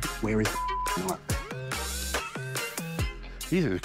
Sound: beep

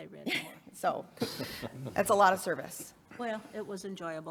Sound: chuckles

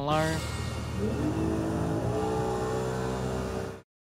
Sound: engine roaring

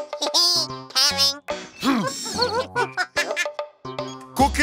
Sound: grunting; Bongalalas chuckle

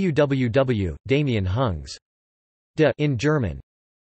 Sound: in German

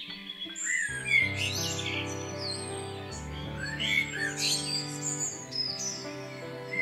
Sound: birds sing

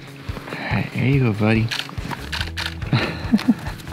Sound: laughs

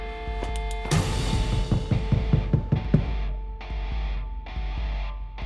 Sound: knocking on door

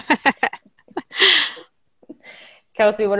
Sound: laughing

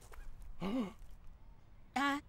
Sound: dad gasps

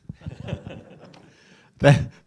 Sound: audience laughs

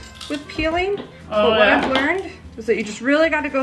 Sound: crunching

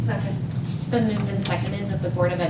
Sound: none

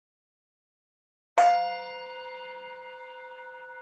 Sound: chime

